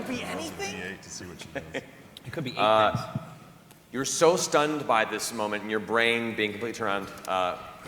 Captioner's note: chuckles